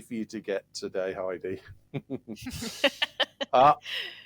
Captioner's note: laughter